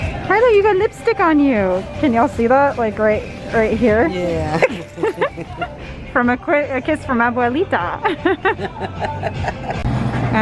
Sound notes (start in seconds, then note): 3.9 both laugh; 8.3 laughs